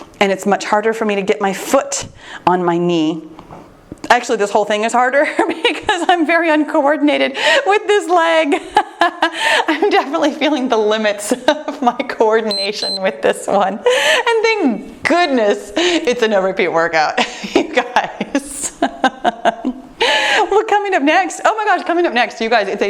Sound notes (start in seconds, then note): 8.4 laughs; 12.4 timer beeps; 19.7 laughing